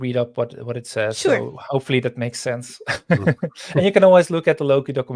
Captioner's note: laughing